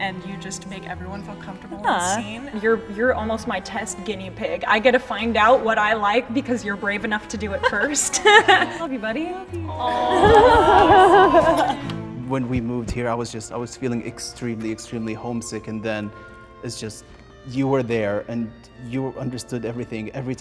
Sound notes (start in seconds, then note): 7.6 laughs; 9.7 crowd